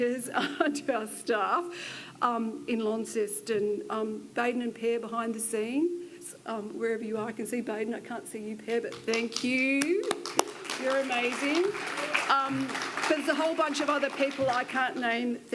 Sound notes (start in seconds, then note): 9.9 audience applauds